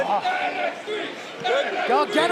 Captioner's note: fans chanting